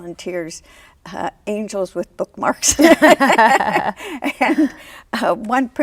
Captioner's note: laughs